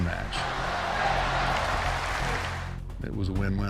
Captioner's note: crowd chanting